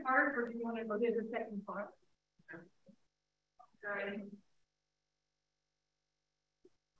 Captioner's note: speaks faintly